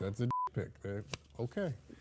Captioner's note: beep